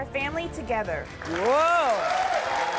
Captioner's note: audience applauds